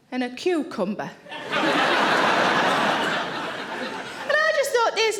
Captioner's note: audience laughing